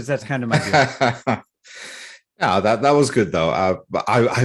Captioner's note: laughs